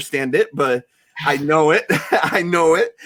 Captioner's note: laughs